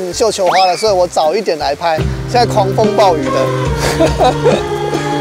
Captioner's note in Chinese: 苦笑